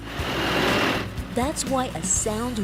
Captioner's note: crane roaring